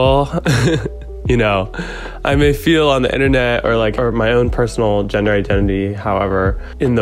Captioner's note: laughs